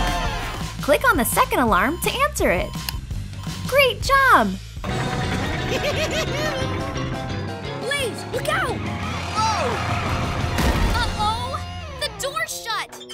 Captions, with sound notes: Click on the second alarm to answer it. Great job! [giggling] Blaze, look out! Whoa! Uh-oh, the door's shut!